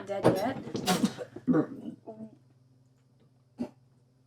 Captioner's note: Betsy spits